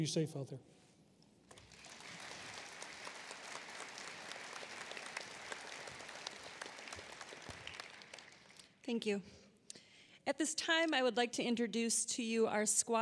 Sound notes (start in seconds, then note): 1.5 applause